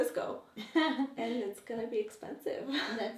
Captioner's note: laughs